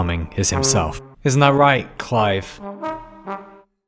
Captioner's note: sarcastically